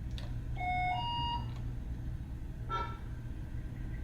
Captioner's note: machine beeping